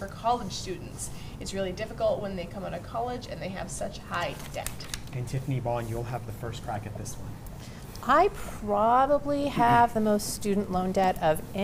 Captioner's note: laughter